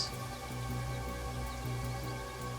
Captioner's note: birds chirping